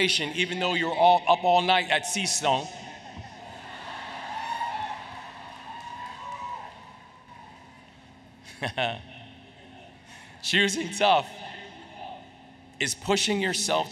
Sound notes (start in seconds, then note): 3.1 cheering, Laughter